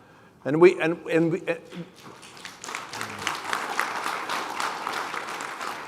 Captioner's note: applause